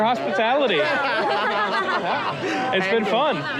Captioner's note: both laughing